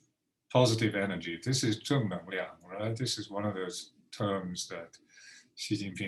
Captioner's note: speaking Mandarin